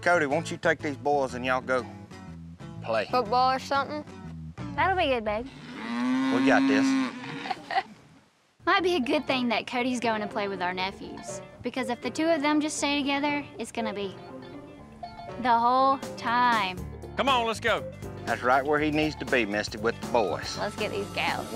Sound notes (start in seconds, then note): 7.4 chuckles